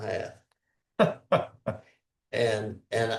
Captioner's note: laughs